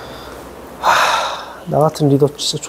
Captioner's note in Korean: 깊은한숨